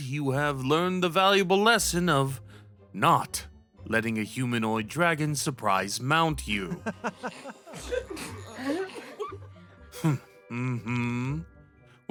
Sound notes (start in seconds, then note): 9.9 A few muffled giggles